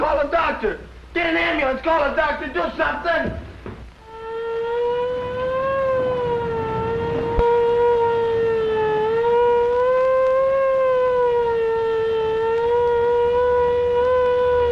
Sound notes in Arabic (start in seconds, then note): 4.2 صافرات الإنذار